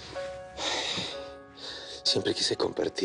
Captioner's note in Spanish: Saúl exhala